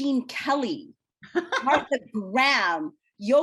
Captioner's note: laughs